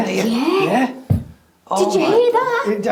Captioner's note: door bangs